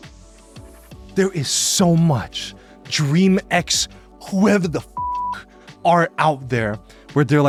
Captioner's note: beeps